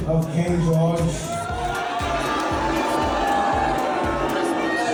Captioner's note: crowds boos